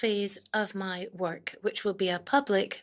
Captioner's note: speaking in French